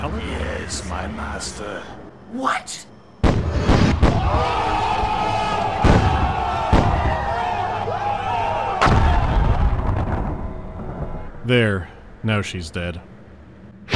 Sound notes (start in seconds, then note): 3.2 explosions; 4.1 SupaHotFire cheering; 8.8 boom